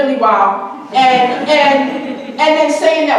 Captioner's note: audience chuckling